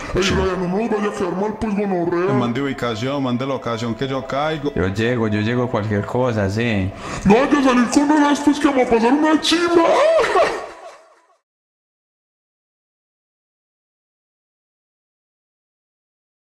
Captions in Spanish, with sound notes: - NO ME VAYA A QUEDAR MAL PUES GONORREA - MANDE UBICACIÓN, MANDE LOCACIÓN QUE YO CAIGO - YO LLEGO, YO LLEGO CUALQUIER COSA, SI - NO VAYA A SALIR CON ESAS PUES QUE A PASAR UNA CHIMBA [RISAS]